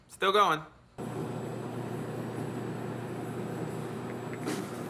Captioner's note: whirring noise